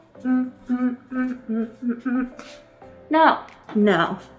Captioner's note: humming